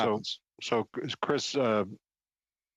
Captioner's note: speaking French